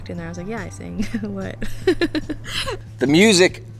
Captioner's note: laughs